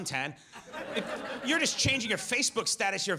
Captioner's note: audience laughs